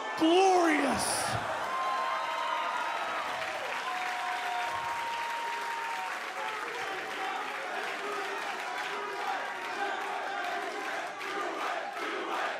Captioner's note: cheers and applause; fans chanting